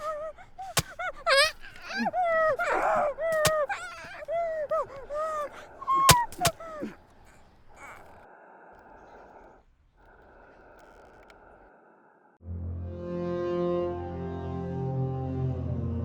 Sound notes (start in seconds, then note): 0.0 knife stabbing; 0.0 documentarian shrieking; 12.4 ominous music